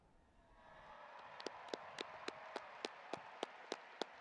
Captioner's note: audience applauding